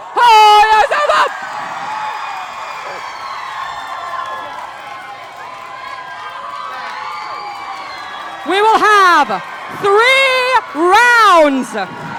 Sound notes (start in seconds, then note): 2.4 crowd cheering